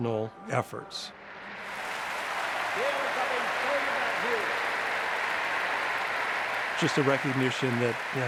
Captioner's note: cheers and applause